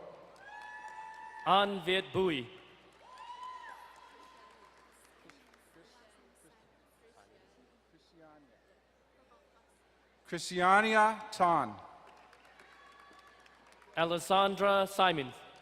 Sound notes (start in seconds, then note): 0.3 distant cheering; 2.8 crowd cheering and applauding; 12.3 distant cheering